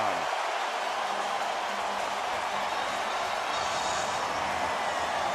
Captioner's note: cheering